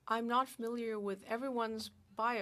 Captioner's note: speaking French